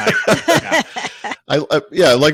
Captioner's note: both laughing